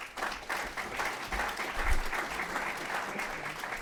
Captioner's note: applause